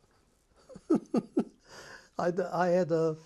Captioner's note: laughs